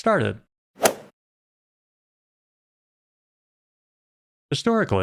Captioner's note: golf ball hit sound